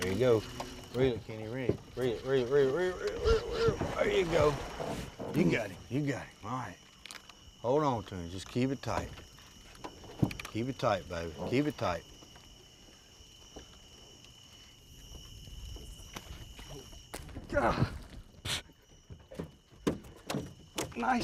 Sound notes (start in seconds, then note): 15.9 splash; 17.1 smack; 19.0 thumping